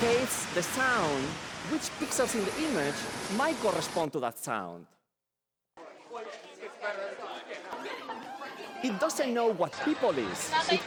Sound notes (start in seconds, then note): 0.0 static; 5.8 chatter on video